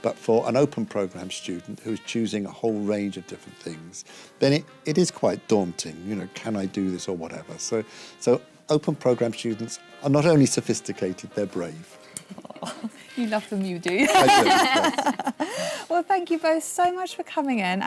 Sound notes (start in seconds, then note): 14.0 laughter